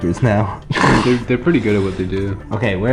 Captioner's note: chuckles